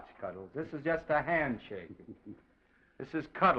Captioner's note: chuckles